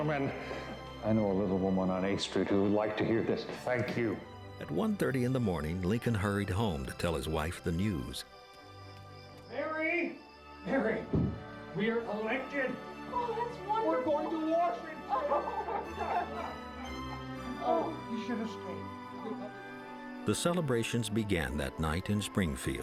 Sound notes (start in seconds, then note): 15.0 both laughing